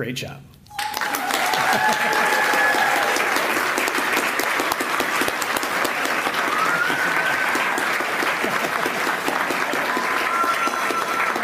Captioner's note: applause